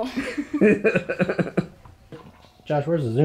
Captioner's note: Josh laughing